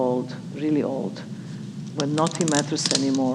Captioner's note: onion crunching